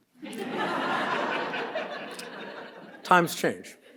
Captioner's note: audience laughs